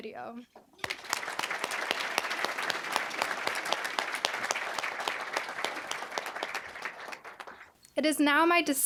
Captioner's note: applause